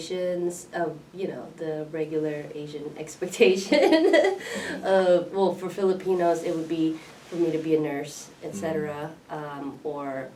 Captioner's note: laughs